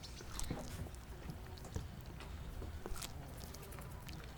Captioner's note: banana squishing